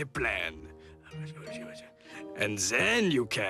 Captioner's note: whispering